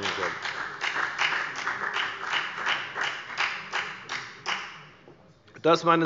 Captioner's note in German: Beifall bei der FDP